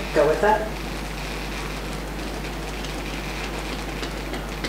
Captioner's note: fingers tapping